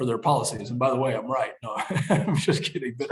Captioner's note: laughs